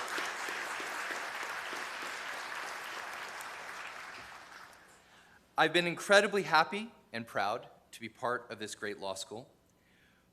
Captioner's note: applause